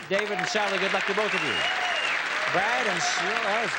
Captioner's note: applause